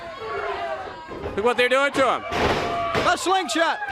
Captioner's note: crowd chatter